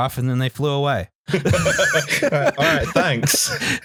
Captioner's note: laughter